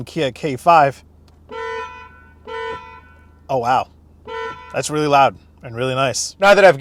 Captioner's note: hoots